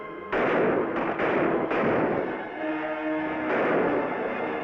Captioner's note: gunshots bang